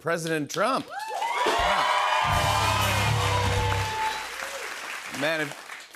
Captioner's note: cheers and applause